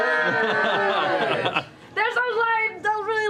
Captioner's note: cheering